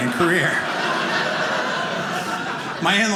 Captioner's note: audience laughing